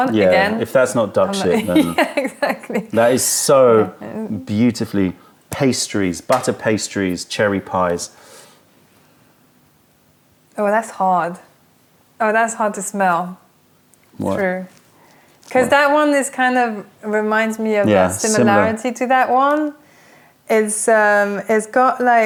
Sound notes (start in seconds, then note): 1.6 laughter